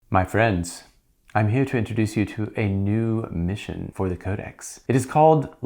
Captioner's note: terrible British accent